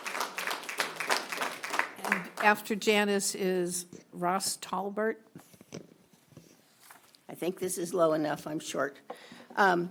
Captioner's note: applause